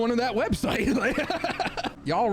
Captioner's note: laughing